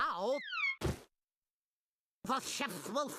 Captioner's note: wig thudding